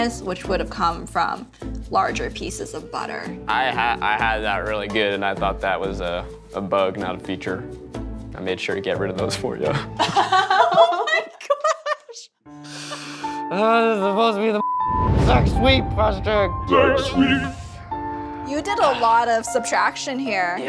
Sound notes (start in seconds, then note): 9.8 laughing; 15.1 beep